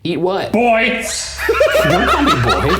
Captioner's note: laughing